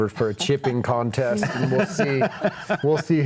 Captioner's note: laughing